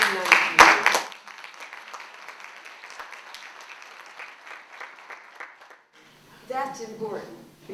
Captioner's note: applause